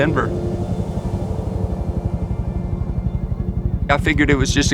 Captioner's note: helicopter whirring